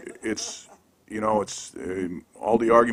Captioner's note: laughter